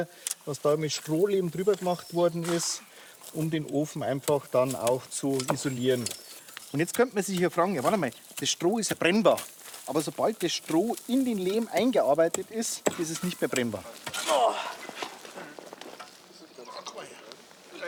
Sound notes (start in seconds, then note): 14.2 loud groan